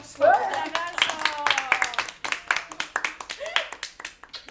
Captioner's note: applause